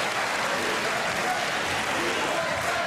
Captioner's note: applause